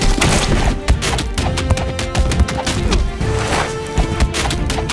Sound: climactic music; punches thud; climactic music

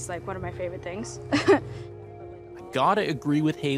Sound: chuckle

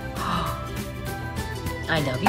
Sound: gasp

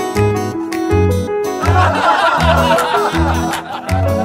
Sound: laughter

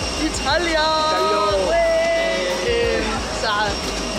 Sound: cheering

